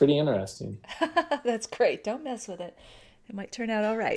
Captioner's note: laughs